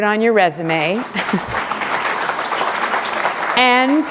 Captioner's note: applause